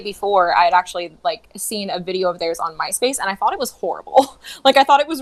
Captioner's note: laughs